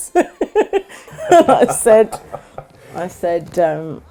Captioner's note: laughs